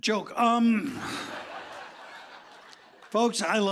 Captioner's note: laughter